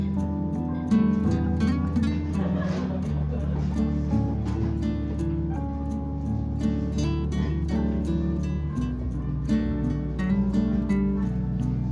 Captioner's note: laughs